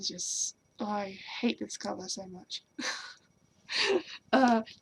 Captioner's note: laughs